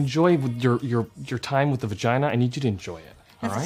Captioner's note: speaks in english